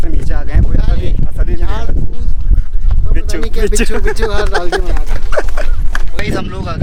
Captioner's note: laughs